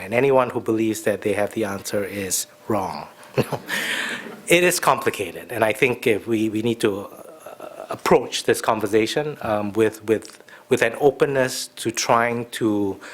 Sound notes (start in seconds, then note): 3.3 chuckles; 3.3 audience laughs